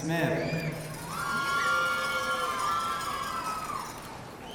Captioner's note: audience cheering